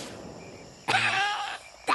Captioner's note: cough